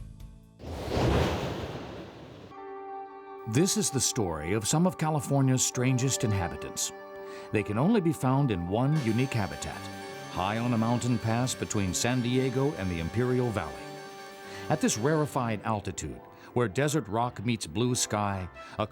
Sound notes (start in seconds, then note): 0.6 whooshing